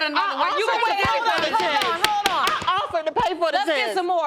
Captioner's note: gavel pounding